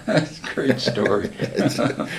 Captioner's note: laughter